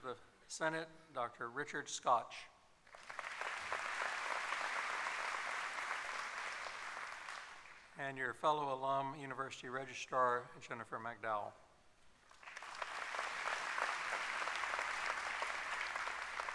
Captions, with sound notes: representing our faculty, Vice Speaker of the Senate, Dr. Richard Scotch. [applause] and your fellow alum, University Registrar, Jennifer McDowell. [applause]